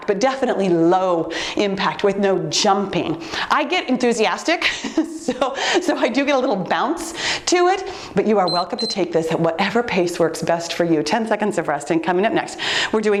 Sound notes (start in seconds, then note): 4.7 laughs; 8.4 timer beeps